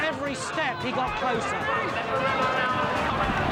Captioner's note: audience yelling; horses galloping